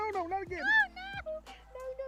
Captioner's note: screaming